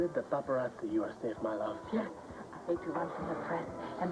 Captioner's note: french accent